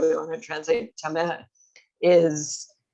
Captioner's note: hebrew